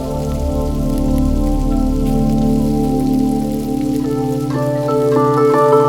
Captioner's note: fry pan sizzle continues